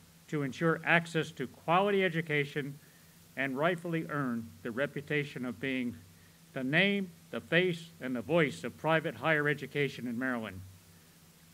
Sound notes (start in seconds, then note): none